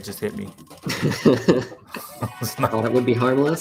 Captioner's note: laughter